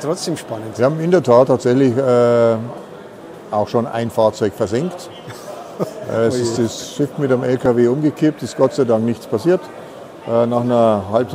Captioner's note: I laugh